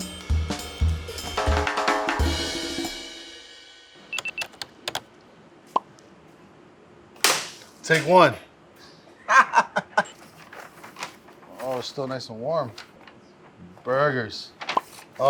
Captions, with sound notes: [typewriter typing] Take one. [laughs] Oh, still nice and warm. Burgers.